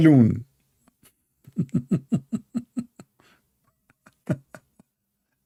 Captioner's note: Ketawa